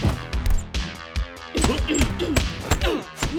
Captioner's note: stuffed animals squeaking